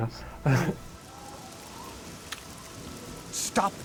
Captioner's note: wind whistles, rain patters